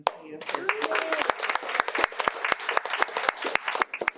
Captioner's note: audience applauding